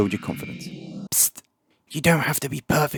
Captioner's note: psst